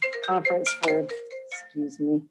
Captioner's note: phone ringing